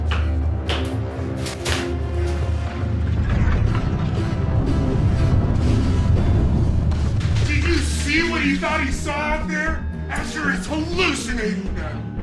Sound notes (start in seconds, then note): 0.2 dramatic music; 2.2 blow thudding; 2.2 eerie music